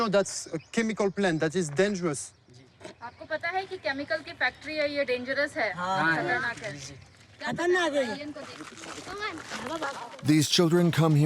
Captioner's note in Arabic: الصوت الهندي المنطوق